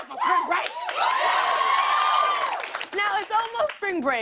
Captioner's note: cheers and applause